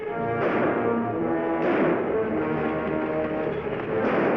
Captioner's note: gunshots bang